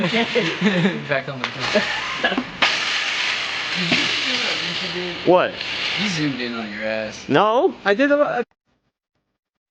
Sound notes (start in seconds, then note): 3.0 metal clanking